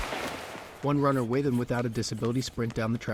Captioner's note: gunshot; panting